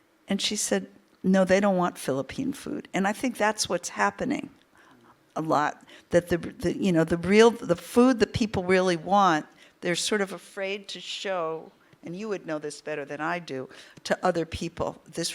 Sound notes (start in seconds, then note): none